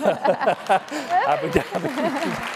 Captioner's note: laughter; applause